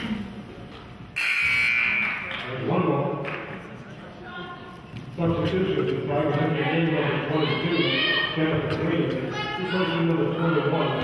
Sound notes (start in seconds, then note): 1.2 buzzer honks; 7.9 players hollering